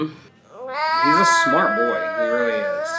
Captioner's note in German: DJ weint